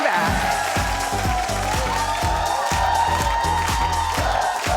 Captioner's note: audience cheering; funky music